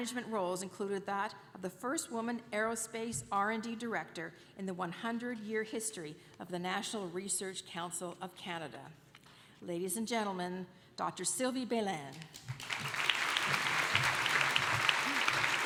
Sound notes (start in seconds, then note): 12.2 applause